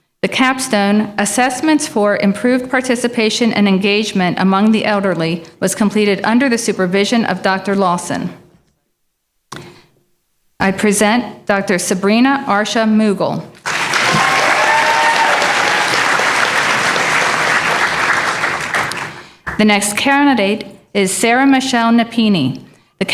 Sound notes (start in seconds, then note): 13.6 applause